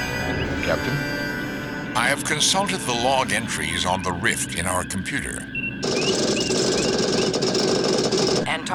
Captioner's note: computer Register Noises